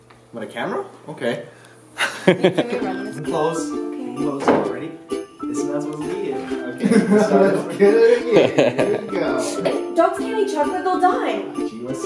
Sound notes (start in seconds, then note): 2.0 laughing; 6.4 laughing